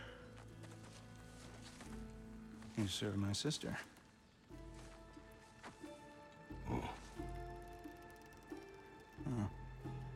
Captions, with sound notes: ...you serve my sister? (grunt) Huh...